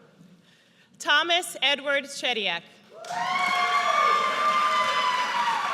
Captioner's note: audience cheers